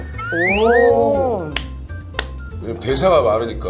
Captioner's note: clap clap